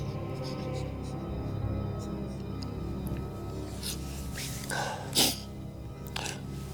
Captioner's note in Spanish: Los dos sollozan